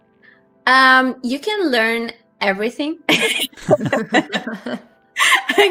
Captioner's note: laughs